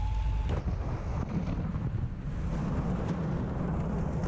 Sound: metal scrapping

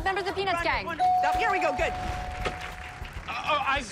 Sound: bell dings

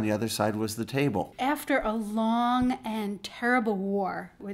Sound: voiceover

